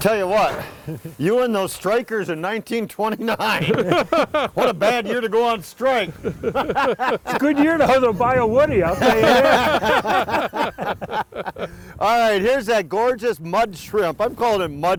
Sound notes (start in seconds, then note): 3.2 laughs; 5.8 group laughs